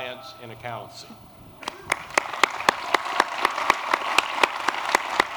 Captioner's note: applause